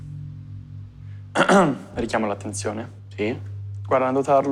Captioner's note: clears throat